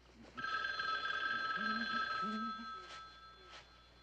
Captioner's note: Telefon çalıyor